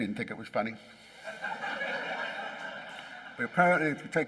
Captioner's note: laughing